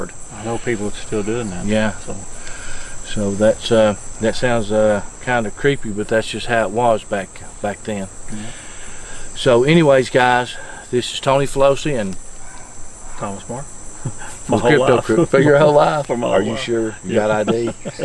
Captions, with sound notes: - I know people that're still doin' that. - Yeah. So that's, that sounds kinda creepy, but that's just how it was back then. So anyways guys, this is Tony Felosi and - Thomas Marcum (laughs), my whole life. - The Crypto Crew... for your whole life? - For my whole life. - Are you sure? Got ID?